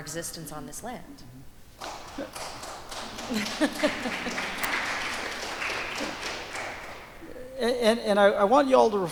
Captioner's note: applause